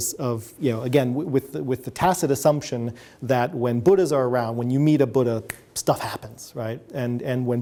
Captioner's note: snaps fingers